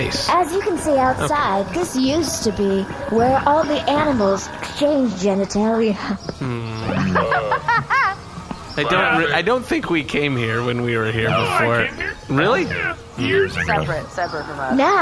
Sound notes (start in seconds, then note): 1.7 muffled farmyard noises; 8.8 thoughtful sounds, laughter